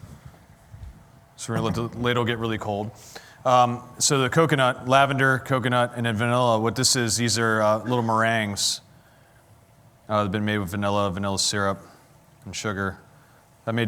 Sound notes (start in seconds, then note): none